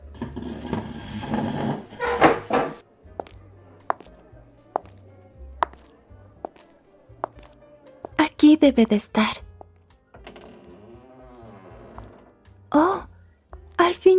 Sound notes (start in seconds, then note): 0.0 chair sound; 2.9 steps